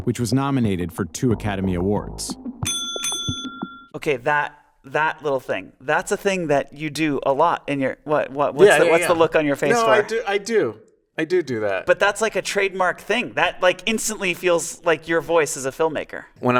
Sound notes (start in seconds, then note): 2.6 bell dinging